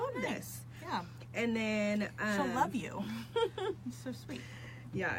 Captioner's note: laughs